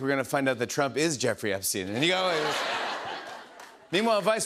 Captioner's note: laughter